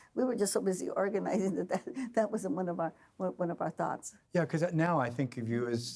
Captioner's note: laughing